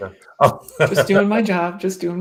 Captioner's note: laughs